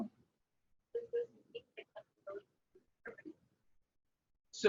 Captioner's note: mic garbling